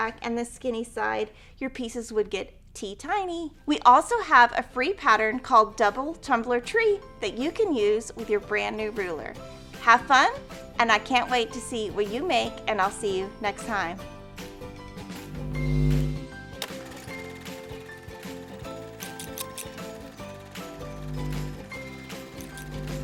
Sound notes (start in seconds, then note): 15.2 cheerful music; 19.0 scissors snipping